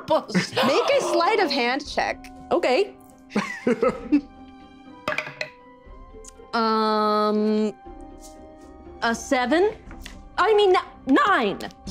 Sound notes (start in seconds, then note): 3.4 Carlos chuckles; 5.2 dice rolls